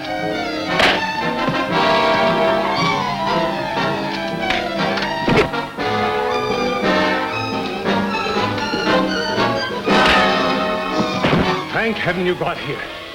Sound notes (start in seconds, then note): 1.0 punches cracking